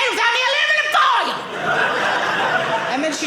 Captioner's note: audience laughing